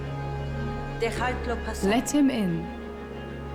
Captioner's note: speaking Spanish